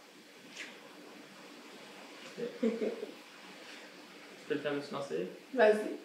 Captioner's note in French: silence et rires